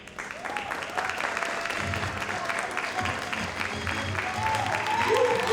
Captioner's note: audience cheers and applauds